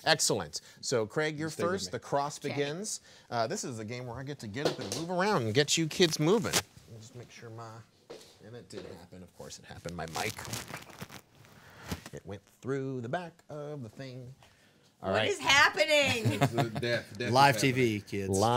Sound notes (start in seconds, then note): 10.7 mic crackling; 16.1 man laughing